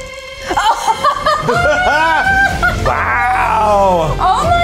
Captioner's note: laughs